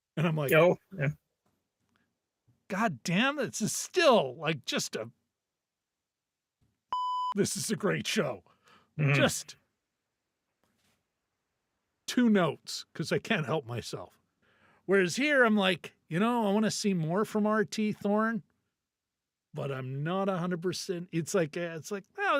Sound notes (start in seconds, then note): 6.9 beep